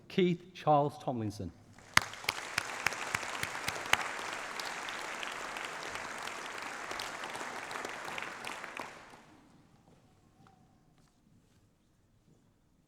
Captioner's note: applause